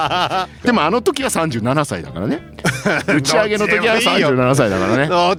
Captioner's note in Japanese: 笑い